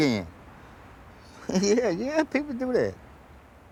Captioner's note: laughing